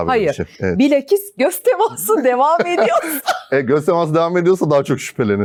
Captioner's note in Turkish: kahkaha